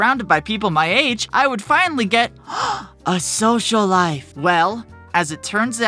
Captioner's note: gasp